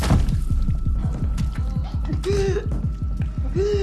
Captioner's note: groaning; gasping; continues gasping